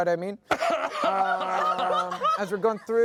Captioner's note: everyone laughs